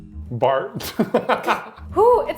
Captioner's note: laughs